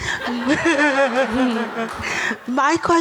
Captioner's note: audience laughing